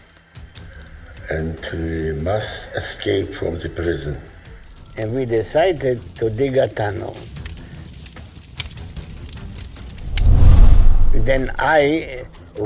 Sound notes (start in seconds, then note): 8.5 fire crackling; 10.0 scene whooshing